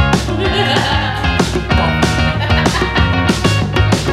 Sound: laughter

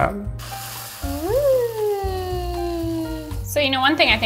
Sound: cereal rustling

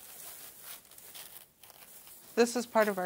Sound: strip scrapes

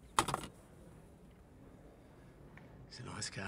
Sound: phone clatters

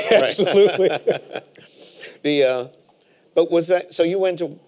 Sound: laughing

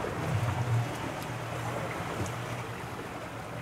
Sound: water splattering; boat enging idling

